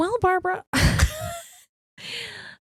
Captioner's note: both laughing